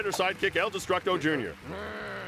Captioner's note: applause